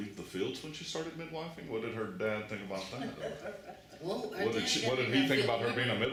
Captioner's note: laughter